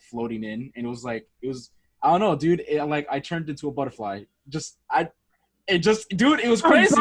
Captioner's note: laughs